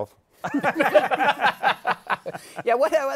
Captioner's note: laughter